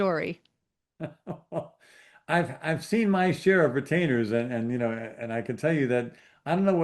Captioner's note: chuckles